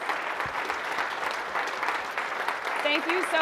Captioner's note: audience applauding